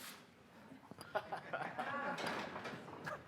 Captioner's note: laughing